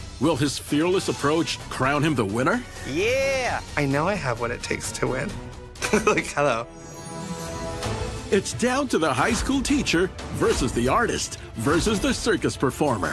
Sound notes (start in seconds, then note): 5.8 laughs